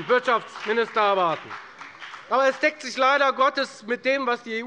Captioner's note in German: Beifall bei der FDP